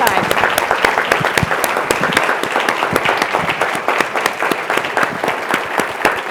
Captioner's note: attendees applauding continues